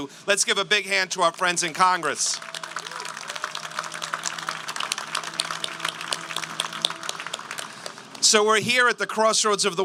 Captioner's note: applause